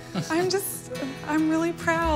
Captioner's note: laughter